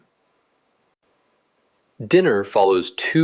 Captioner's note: pause